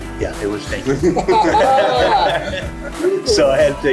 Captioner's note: group laughs